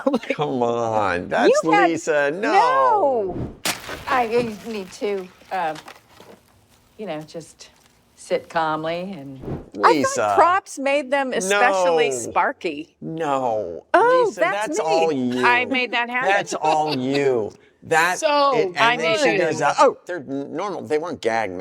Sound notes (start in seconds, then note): 5.4 match ignites, crackles